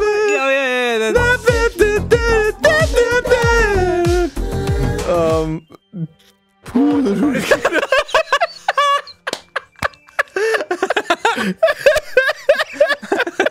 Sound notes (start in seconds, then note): 5.8 stuttering; 6.8 both die of laughter